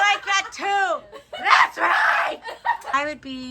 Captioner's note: shouts